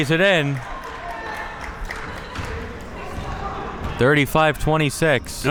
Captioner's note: spectators applauding